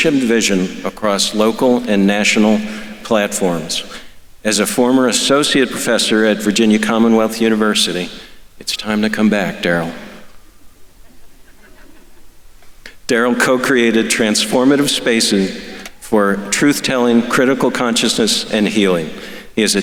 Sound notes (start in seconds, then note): 11.0 audience laughing